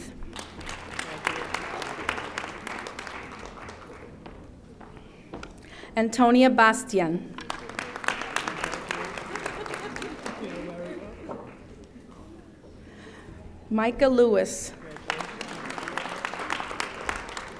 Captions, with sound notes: (audience applauding) Antonia Bastian. (audience applauding) Micah Lewis. (audience applauding)